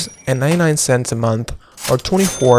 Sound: cash register rings

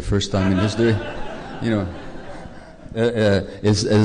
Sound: laughter

